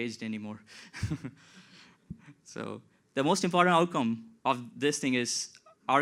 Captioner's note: laughs